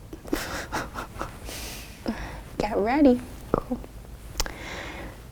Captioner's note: laughs nervously